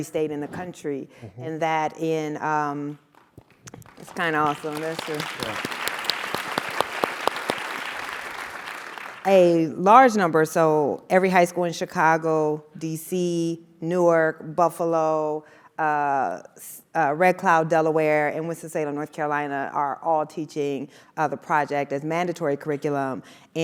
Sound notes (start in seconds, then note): 5.6 applause